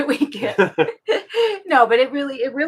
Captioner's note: both laughing